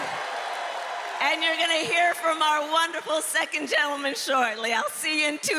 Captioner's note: cheers and applause